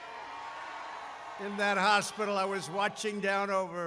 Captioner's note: applause